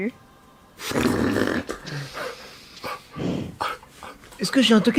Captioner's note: laugh